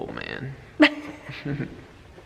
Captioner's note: laughing